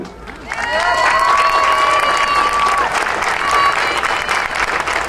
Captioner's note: audience cheering and applauding